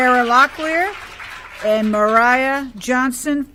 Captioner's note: applause